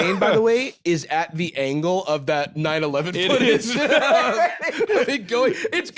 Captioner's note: laughs